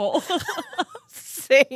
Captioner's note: laughing